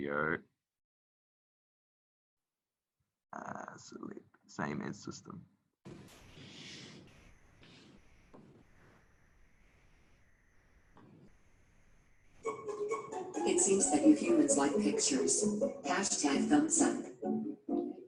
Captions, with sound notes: Audio, that's same in system. (happy music) - [Computer Voice] It seems that you humans like pictures, hashtag thumbs up.